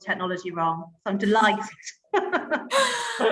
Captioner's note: laughs